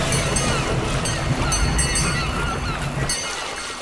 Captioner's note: bell dinging